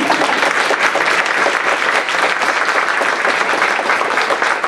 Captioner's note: applause